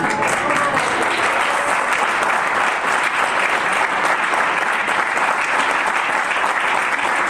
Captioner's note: audience applause